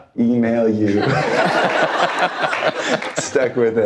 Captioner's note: audience laughter